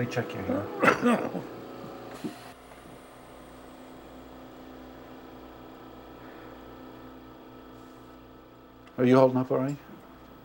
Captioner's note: coughs